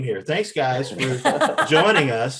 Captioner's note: panelists laughing